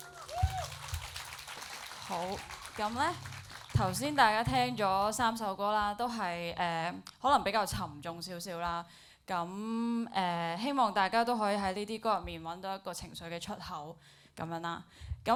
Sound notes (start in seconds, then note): 0.0 applauds and cheers; 2.6 Cantonese